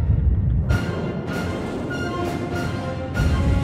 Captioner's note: rocket launching from the water